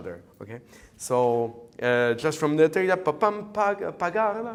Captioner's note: hums